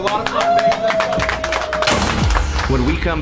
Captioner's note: players clap and cheer